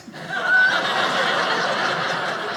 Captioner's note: audience laughing